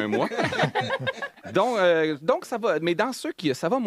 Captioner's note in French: rires